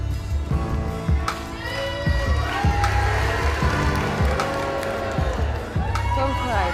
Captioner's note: crowd Boos